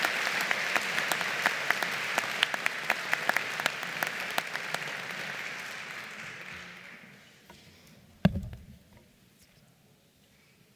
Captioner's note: applause